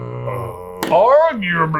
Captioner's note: grunting